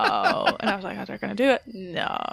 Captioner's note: laughs